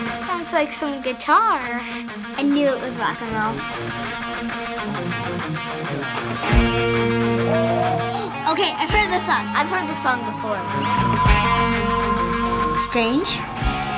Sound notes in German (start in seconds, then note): 7.1 Sänger heulen; 8.0 keuchen; 10.7 Sänger heulen wie Sirene